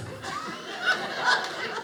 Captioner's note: audience laughing